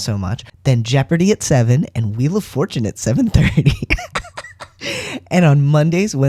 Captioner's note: laugh